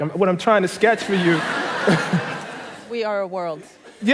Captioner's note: laughter